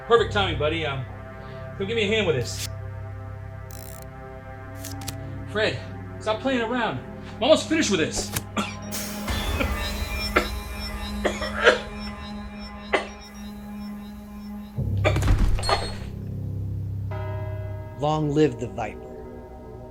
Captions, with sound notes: - Perfect timing, buddy. Give me a hand with this. (mysterious music) - Fred, stop playing around. I'm almost finished with this. (Reese coughing) (eerie music) - Long live the Viper.